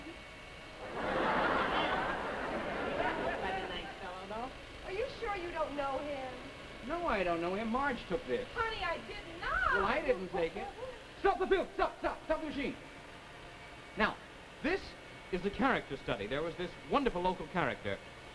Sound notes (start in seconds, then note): 0.8 audience laughs